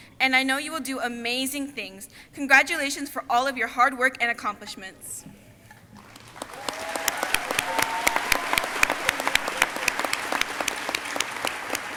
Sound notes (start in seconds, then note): 5.9 crowd applauding